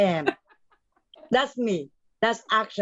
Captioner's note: chuckling